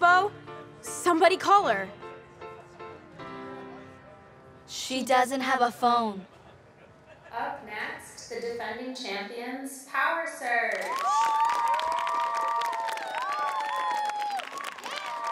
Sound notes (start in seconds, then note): 10.6 cheers and applause